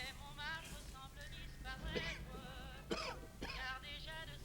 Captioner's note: coughing